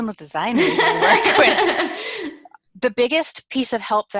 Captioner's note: laughs